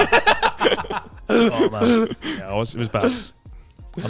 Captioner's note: laughing